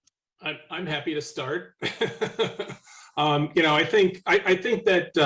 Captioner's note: laughing